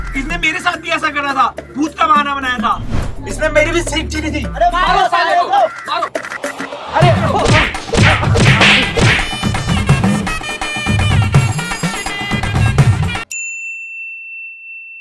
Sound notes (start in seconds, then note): 6.8 beating